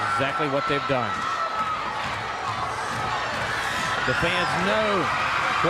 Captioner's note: crowd cheering